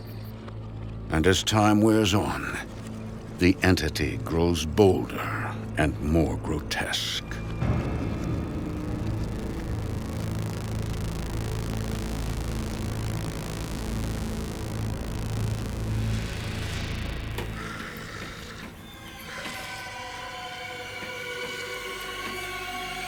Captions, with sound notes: And as time wears on the entity grows bolder and more grotesque. (ominous music) (snarls)